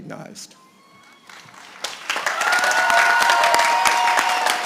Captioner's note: applause